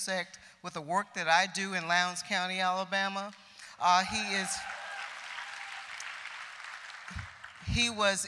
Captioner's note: applause